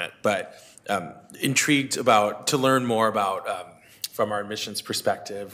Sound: none

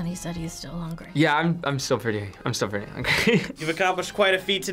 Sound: laughs

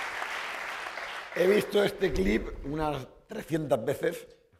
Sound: speaking spanish

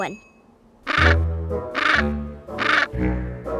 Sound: squawking

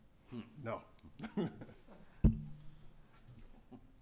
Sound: laughs

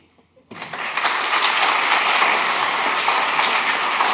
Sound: audience applauds

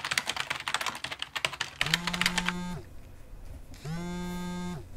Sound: cell phone vibrates

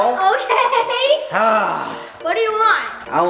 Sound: grunting

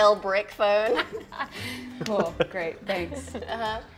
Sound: laughs

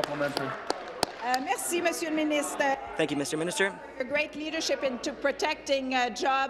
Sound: applause

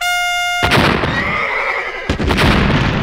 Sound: more loud blasts, bomb whistles though air; horse whinnies; shattering explosion

